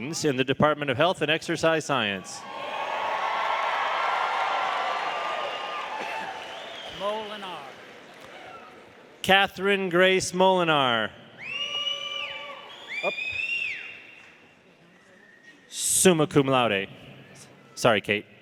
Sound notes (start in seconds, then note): 2.5 audience applauding; 3.9 audience cheering